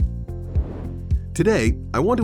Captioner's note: air whooshes